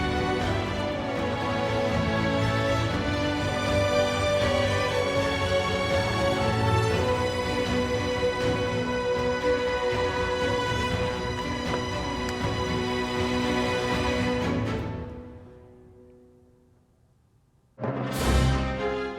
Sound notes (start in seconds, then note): 10.9 book opens; 14.3 music fades out; 18.1 intense Sci-Fi Music